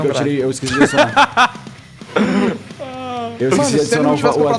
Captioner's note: laughs